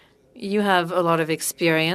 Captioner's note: speaking French